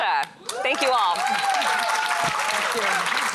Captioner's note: applause